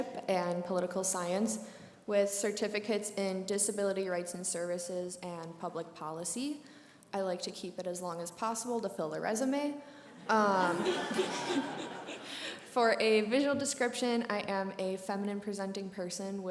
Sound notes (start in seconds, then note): 9.4 brief laughter